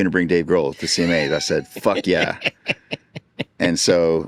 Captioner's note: laughing